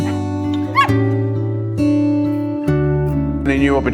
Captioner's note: dog yips